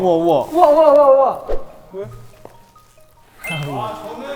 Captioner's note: Squish